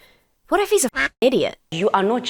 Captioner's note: duck quacks